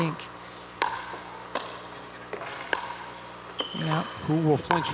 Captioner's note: ball bouncing